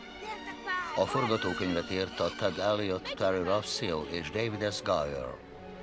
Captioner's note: children talking excitedly